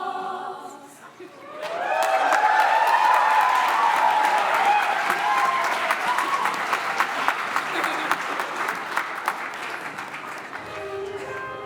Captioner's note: cheering and applause